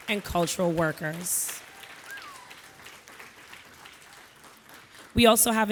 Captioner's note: audience applauding